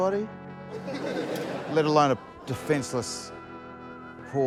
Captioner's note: laughter